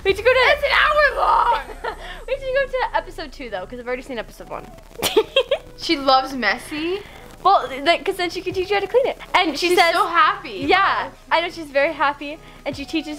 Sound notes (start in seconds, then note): 5.0 giggles